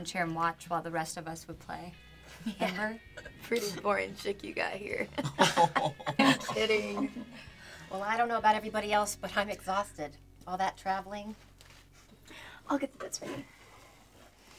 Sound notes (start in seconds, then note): 5.1 laughing